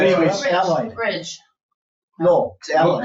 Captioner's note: people chattering